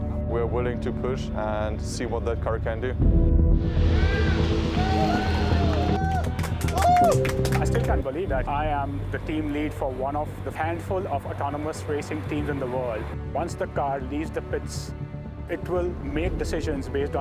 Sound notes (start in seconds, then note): 3.9 cheering